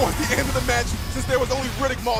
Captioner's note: bell ringing